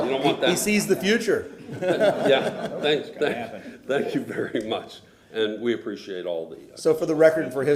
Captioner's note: laughter